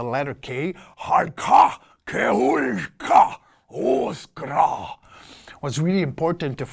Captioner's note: alien sounds